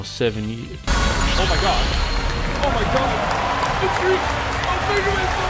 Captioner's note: fanboy noises